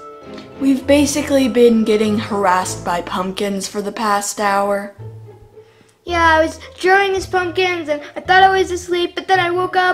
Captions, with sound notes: We've basically been getting harassed by pumpkins for the past hour. (babbling about pumpkins)